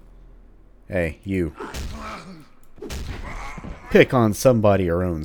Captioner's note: whack